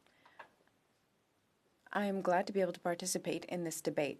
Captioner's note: speaking French